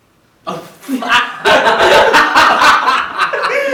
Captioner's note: laughter